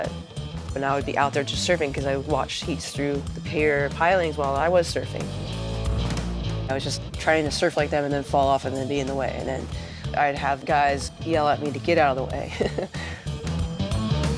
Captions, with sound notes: I would be out there surfing and watching heats through the pier. I was trying to surf like them. I'd fall off and be in the way. Then I'd have guys yelling at me to get out of the way. (laughs)